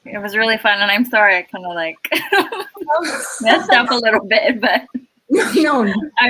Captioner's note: laugh